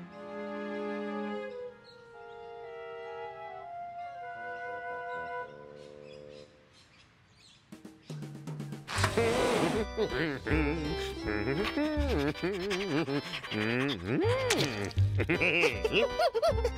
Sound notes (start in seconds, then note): 8.9 humming; 15.7 chuckles